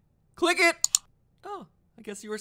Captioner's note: mouse Click